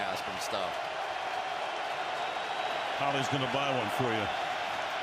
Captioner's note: cheers